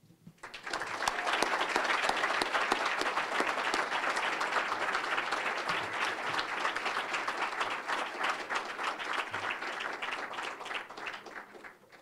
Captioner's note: applause